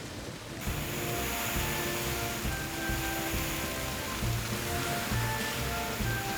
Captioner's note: water Spray Hissing